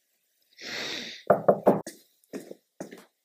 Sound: smelling; knock at door

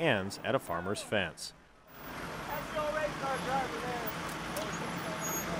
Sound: muted shouting

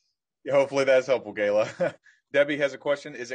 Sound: chuckles

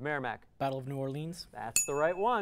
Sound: ding

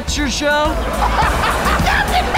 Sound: laughing

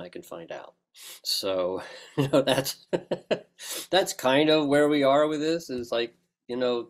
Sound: laugh

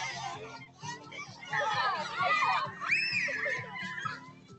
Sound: kids yelling

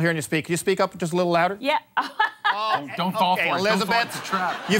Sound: laughs

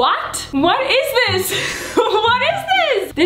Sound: chuckles

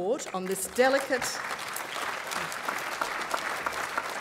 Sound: applause

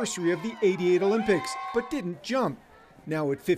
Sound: cheering

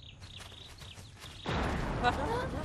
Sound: explosion sound

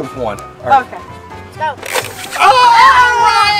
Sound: crocodile closing

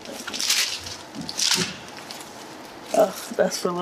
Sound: plastic crumbling

